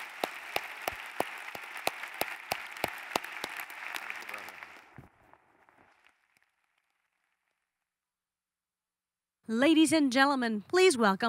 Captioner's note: applause